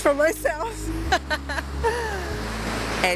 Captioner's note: laughs